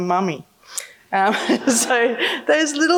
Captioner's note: laughing